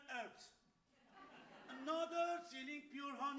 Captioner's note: audience laughs